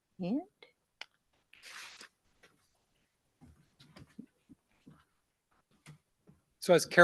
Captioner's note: silence